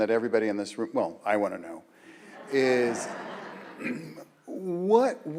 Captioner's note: audience laughs